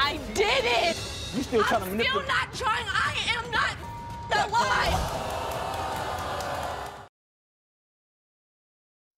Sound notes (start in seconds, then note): 3.3 beep; 4.0 audience gasps